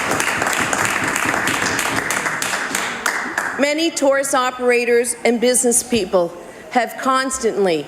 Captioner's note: some Applause